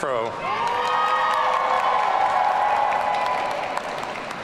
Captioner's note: audience cheering